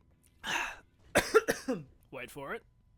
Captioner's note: chokes on ginger beer